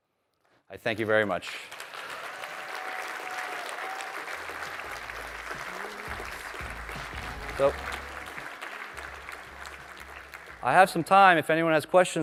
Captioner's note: applause